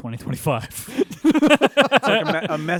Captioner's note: laughter